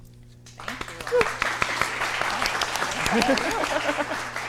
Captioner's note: audience applauds